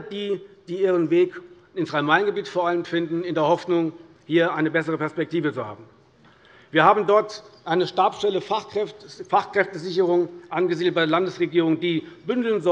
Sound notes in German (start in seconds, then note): none